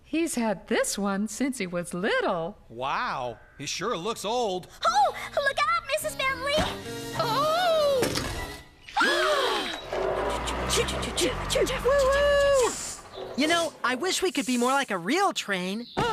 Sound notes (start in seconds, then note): 6.6 thud!; 7.8 crash; 9.0 gasp!